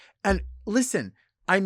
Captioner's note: none